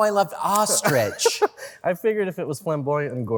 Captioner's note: laughter